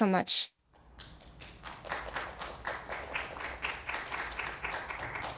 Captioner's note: audience applauds